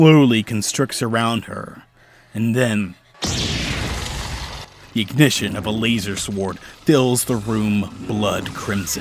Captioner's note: lightsaber